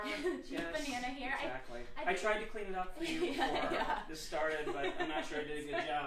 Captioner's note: laughter